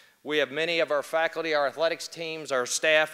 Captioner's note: none